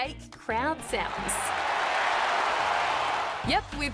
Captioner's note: crowd cheering